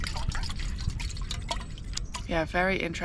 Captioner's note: splosh splosh